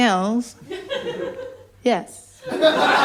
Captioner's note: laughter